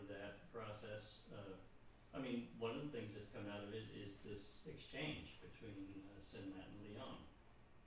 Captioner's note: none